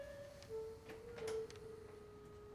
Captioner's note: footsteps